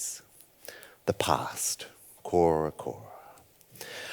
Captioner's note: speaks foreign language